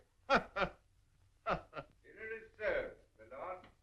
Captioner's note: laughing